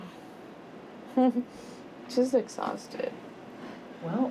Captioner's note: laughs